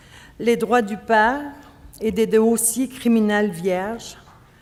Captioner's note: speaking French